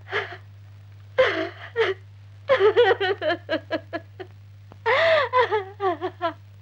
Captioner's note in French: mme marchetti pleurant